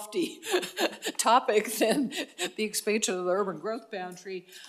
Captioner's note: laugh; laugh